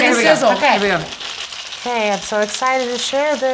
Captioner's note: pan sizzling